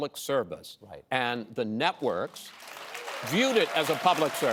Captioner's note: applause